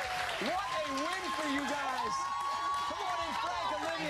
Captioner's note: cheers and applause